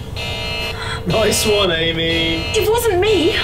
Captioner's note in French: Alarme